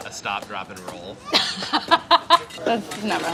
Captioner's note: laughing